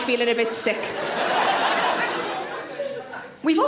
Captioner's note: audience laughs